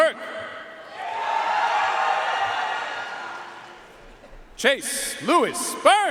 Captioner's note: audience cheering and applauding